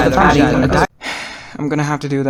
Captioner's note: sigh